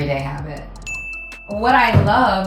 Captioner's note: bell ringing